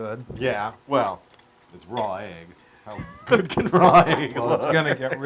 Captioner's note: laugh